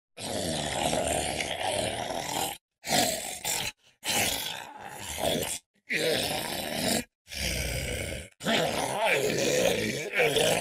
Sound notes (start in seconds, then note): 0.0 pain stricken groaning